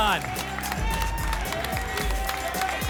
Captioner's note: applause and cheering